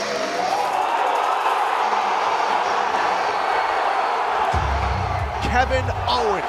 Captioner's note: cheers and applause